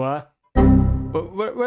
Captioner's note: windows error sound